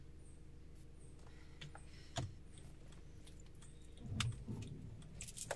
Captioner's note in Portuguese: Carro ligando